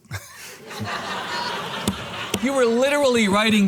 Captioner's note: audience laughing